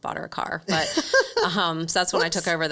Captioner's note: laughing